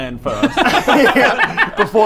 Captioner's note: impulsive laughter